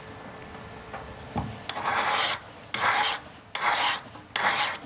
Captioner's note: metallic scraping